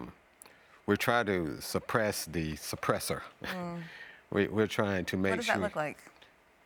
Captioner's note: chuckles